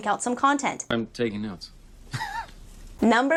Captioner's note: laughs